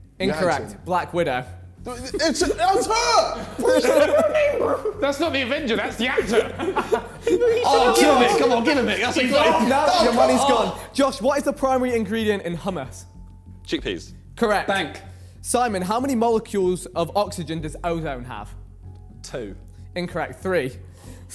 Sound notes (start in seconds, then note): 3.3 contestants laughing; 6.8 men chattering